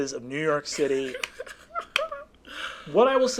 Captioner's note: laughing